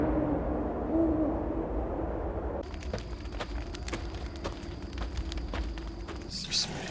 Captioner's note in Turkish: Gece ortam sesi